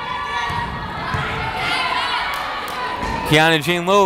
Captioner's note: yelling